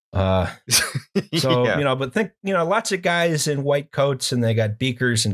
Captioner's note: laughter